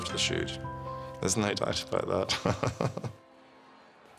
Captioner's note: laughs